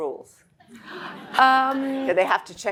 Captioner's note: audience laughing